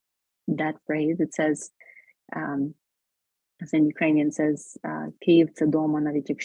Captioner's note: speaking in Ukrainian